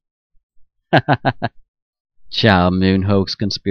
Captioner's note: chuckles